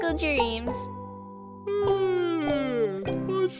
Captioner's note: yawns